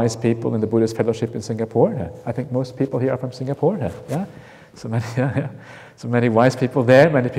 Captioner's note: chuckle